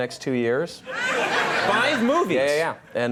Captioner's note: audience laughing